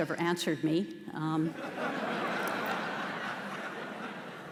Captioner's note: audience laughter